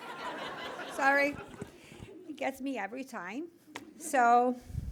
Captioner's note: laughter